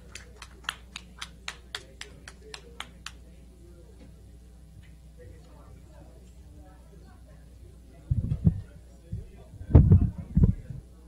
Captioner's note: clapping